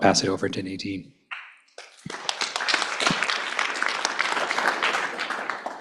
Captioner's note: applause